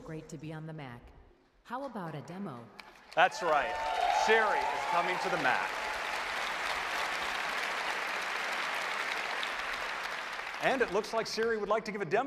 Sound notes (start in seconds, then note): 2.1 cheers and applause